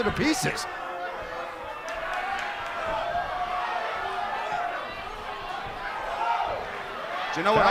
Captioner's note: crowd cheering